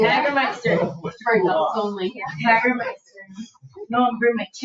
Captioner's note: people chatter